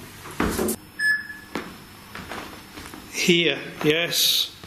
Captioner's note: beep